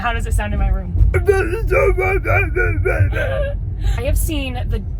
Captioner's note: vocalizing gruffly